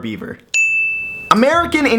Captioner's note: chime Sound